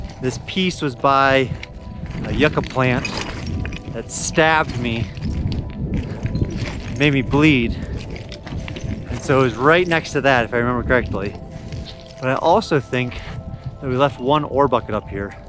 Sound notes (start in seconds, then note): 5.0 debris rustling; 8.1 debris rustling